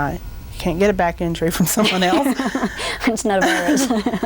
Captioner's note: laughing